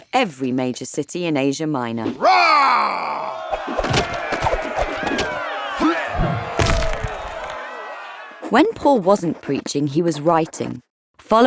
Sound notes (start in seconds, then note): 2.2 Paul roaring; 2.2 crowd jeering; 6.0 man grunting; 6.5 rock thudding